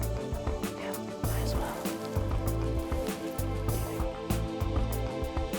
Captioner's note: whispering